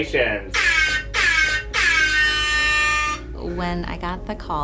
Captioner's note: air horn blaring